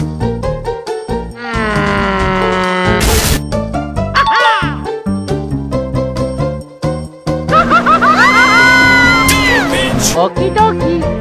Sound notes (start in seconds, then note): 2.8 boom!; 4.1 correct sound